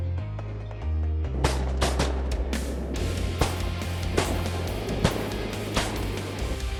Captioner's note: gun shots